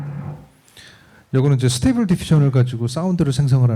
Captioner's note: speaking korean